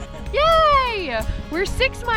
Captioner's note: giggles